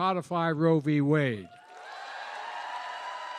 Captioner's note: cheering and applause